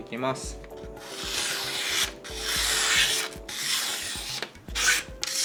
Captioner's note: cutting paper